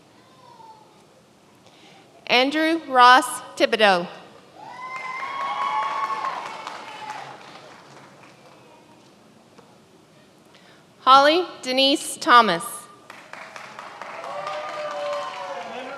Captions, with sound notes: Andrew Ross Tibideau. (many applauding) Holly Denise Thomas. (many applauding)